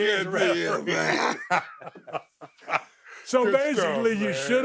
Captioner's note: both laughing